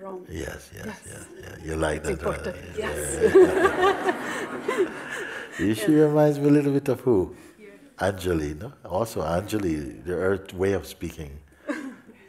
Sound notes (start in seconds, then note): 3.9 smiech